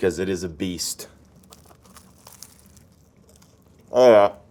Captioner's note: kaiser roll crunches